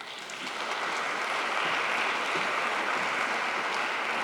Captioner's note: audience applauds